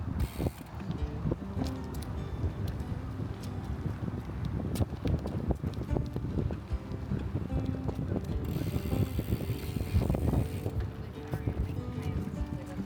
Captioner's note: wind